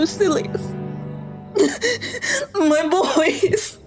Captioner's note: sobbing